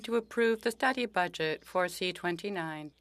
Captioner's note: speaking French